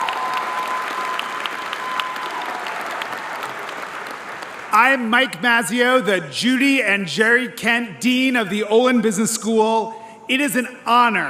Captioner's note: applause